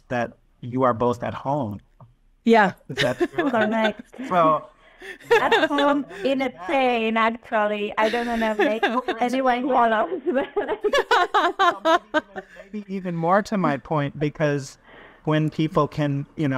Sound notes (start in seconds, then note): 2.9 chuckles; 10.5 group laughing